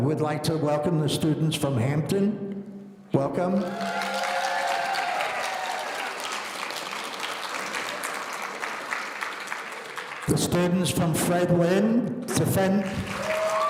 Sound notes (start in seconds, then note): 3.5 audience cheering; 13.0 audience cheering